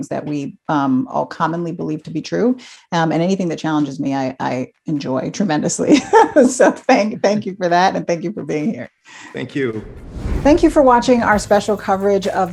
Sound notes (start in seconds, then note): 5.8 laughs